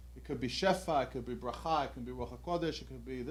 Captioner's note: non-english